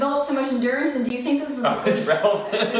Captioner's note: laughs